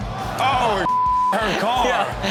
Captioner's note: beep